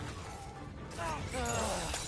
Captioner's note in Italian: gemito